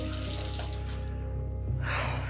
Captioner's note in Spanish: Ruido del agua